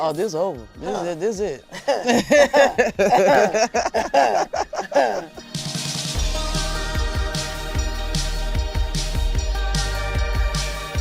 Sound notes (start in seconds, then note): 1.7 laughing; 6.0 upbeat music